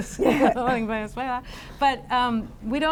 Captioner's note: laughs